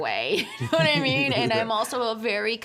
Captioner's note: both laughing